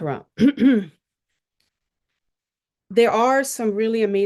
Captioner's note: clears throat